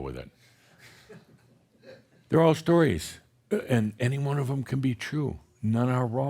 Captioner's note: a few chuckles